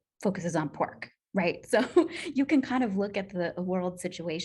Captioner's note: laughter